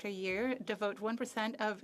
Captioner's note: speaking French